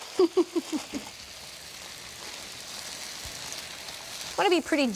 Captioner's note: sizzling; chuckles